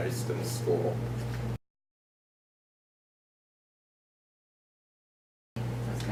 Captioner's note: silence